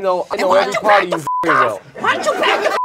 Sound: beep

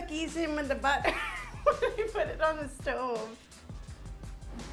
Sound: laughing

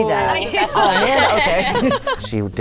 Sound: laughs

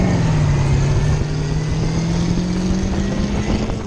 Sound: engine roars

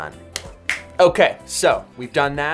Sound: finger snap

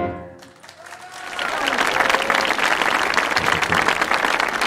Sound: lively instrumental music; audience applauding

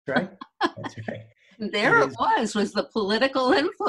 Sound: laughs

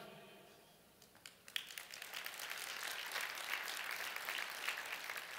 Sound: applause

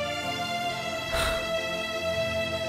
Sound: sighs

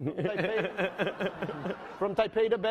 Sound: laughing

